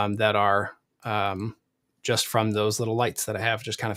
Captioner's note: none